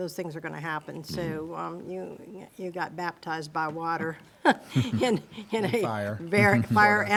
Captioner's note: laughs